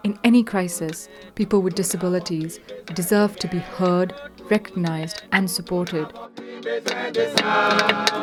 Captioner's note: voice-over